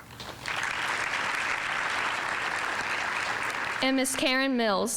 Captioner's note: audience applauding